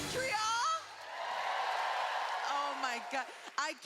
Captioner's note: cheering